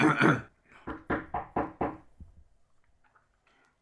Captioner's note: clears throat; knock on door